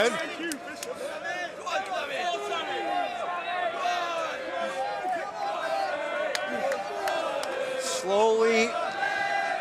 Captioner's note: crowd cheering